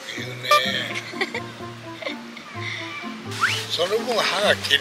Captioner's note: laughs